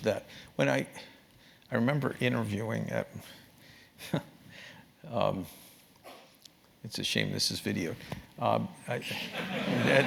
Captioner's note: laugh